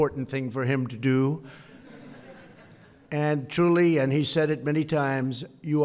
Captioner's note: laughter